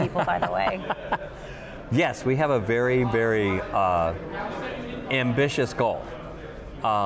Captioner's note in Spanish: risas